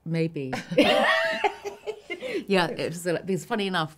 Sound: laughs

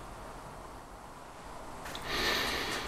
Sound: Eddie exhales

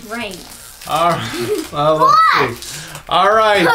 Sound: laughs

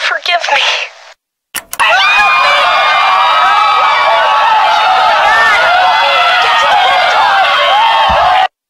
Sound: screaming

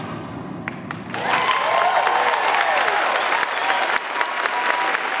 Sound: audience applauding

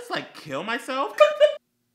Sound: gay laugh

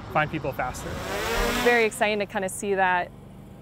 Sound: drone whirring

